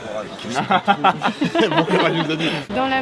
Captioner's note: laugh